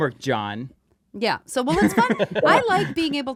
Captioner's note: laughs